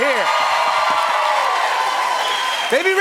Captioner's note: cheers and applause